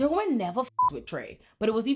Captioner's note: beep